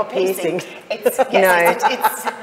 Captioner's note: group laughs